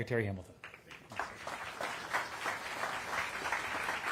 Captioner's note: applause